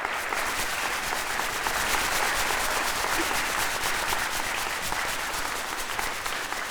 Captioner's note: audience applauding; pom-pom rustling